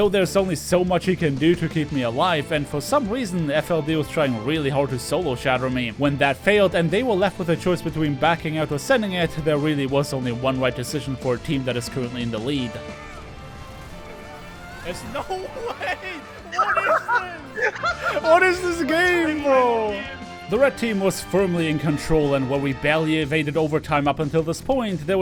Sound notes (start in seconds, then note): 15.2 laughter